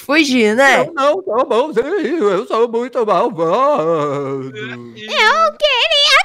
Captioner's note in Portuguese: com voz de fantasma